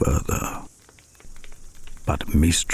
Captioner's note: fire crackling and night insects buzzing